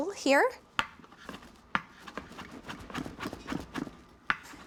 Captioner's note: chopping